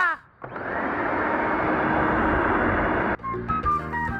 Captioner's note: reciting along; vacuum whirring; upbeat muzak